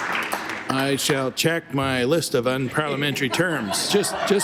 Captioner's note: applause